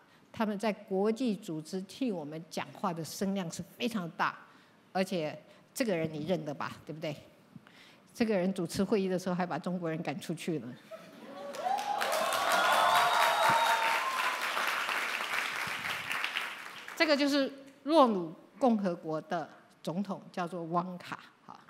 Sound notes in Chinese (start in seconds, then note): 11.2 歡呼